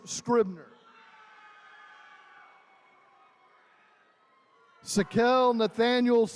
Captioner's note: attendees cheering